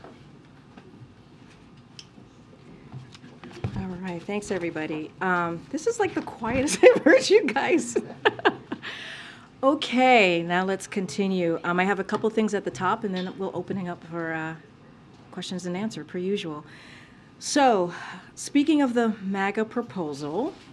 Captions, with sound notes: All right, thank you. All right, thanks, everybody. This is like the quietest I've heard you guys. (Laughs.) Okay, now let's continue. I have a couple of things at the top, and then we'll open it up for questions and answer, per usual. So, speaking of the MAGA proposal